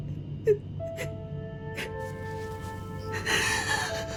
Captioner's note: Emily sobbing